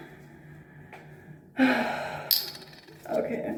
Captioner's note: sigh